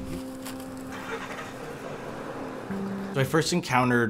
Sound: car engine starting

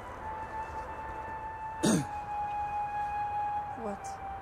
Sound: coughs

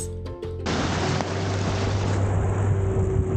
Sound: waves against boat

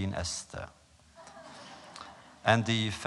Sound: laughter

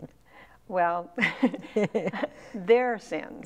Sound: laughing

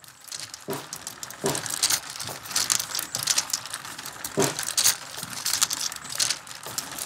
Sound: marbles rolling

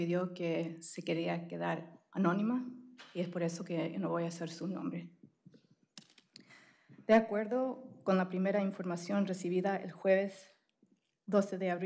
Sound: speaking spanish

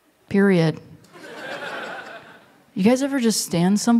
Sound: laughter

